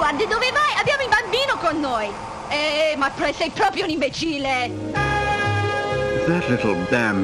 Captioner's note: mother speaking in foreign language continues